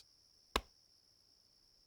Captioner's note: thump